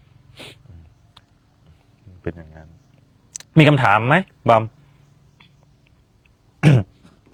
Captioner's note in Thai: เสียงสูดหายใจ